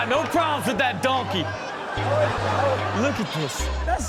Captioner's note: audience laughs